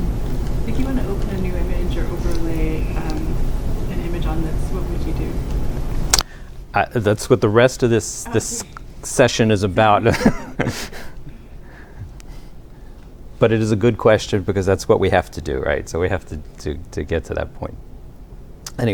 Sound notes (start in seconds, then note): 10.0 laughter